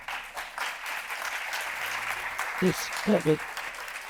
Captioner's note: attendees applauding